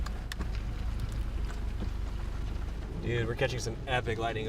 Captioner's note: rain